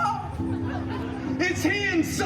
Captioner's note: guests chuckling